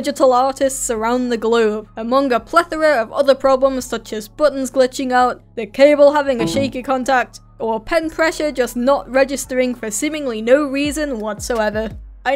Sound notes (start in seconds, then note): 6.4 disconnect sound effect